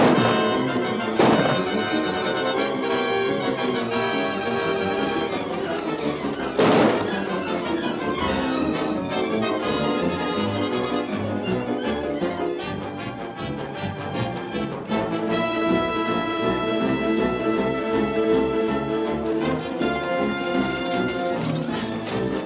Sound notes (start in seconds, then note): 0.1 frantic music; 6.5 gunshot; 11.3 frantic music